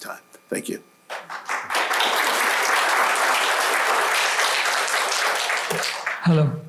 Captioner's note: applause